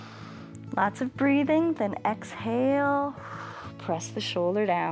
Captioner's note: inhales; exhales